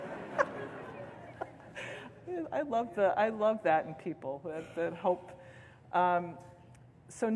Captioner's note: laughter